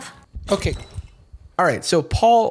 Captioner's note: squeaking hinges